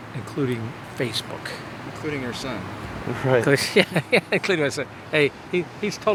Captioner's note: laughter